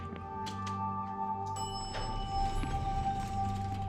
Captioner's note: elevator pings